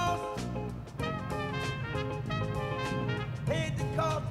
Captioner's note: car approaching